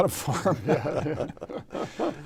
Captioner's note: all laughing